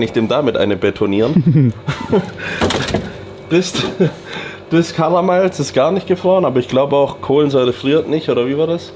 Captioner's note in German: gelächter